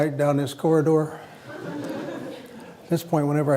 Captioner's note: laughter